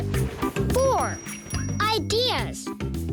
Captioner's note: bell ringing